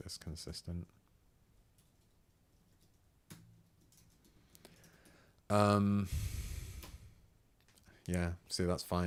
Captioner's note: sigh